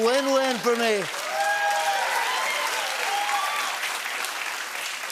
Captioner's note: cheering